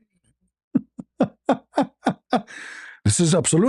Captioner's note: ketawa